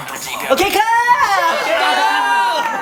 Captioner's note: voice crack